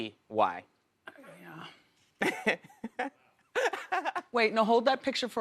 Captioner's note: laughter